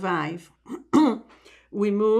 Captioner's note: clears throat